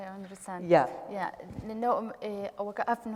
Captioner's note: speaking kurdish